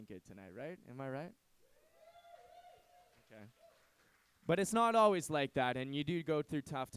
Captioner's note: applause